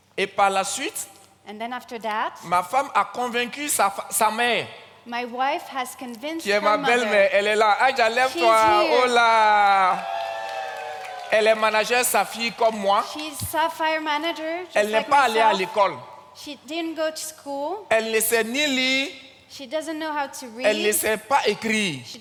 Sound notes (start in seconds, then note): 0.2 continues in French; 6.9 continues in French; 8.3 audience claps and cheers; 11.3 continues in French; 14.5 continues in French; 17.8 continues in French; 20.8 continues in French